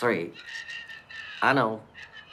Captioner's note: shouting